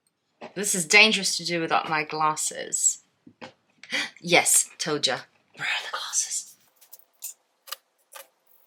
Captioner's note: gasp